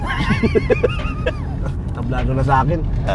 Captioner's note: laughing